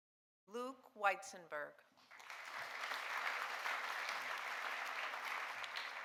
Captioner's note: audience applauding